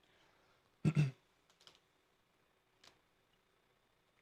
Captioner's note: clears throat